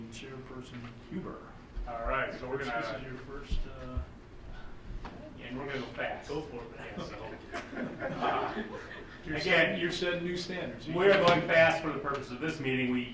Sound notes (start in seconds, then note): 6.8 group chuckling